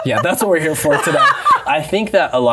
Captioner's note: laughs